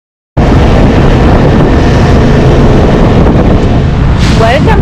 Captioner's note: motorbike engine